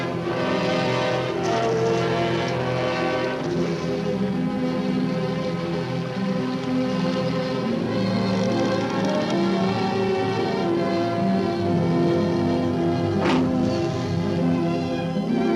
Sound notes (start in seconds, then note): 7.5 sad music; 8.8 hatch creaks open; 8.8 sad music